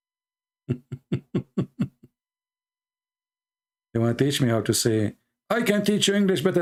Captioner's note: Ketawa